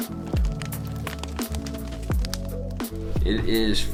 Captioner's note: fire crackling